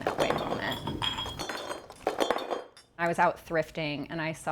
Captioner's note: objects clatter